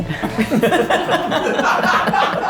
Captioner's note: group laughing; unmistakable laugh somewhere in the background